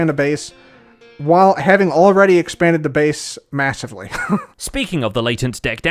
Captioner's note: laughs